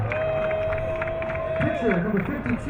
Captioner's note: crowd cheering